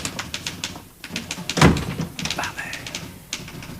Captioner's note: door opens and closes